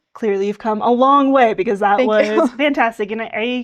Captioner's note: laughing